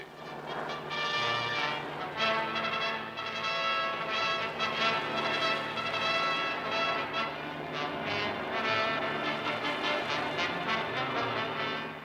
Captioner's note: plane engines